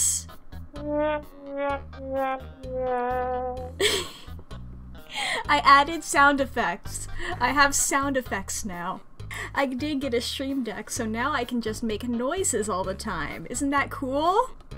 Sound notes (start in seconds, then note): 3.6 laughs